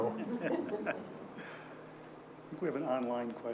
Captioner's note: audience laughing